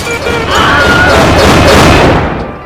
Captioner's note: screaming